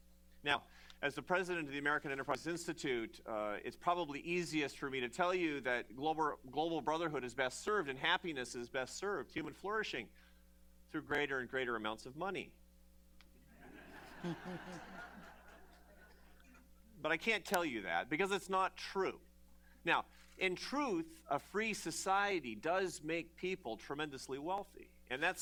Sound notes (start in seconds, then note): 13.5 laughter